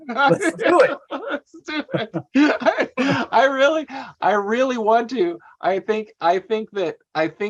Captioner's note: laughter